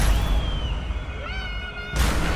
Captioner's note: dramatic music; Scarlet screaming